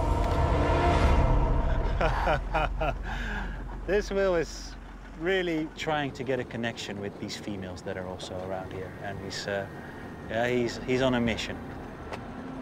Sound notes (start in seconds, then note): 1.6 laughs